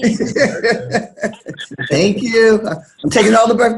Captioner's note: laughs